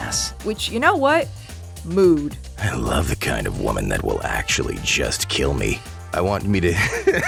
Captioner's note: Spike Impersonator Voice; laughs